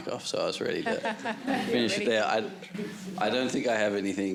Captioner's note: all chuckling